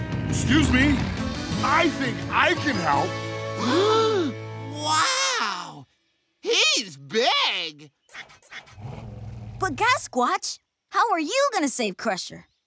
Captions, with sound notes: Excuse me. I think I can help. [gasping] Wow! He's big! But Gasquatch, how are you gonna save Crusher?